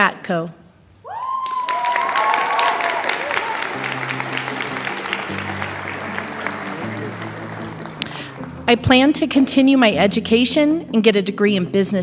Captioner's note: applause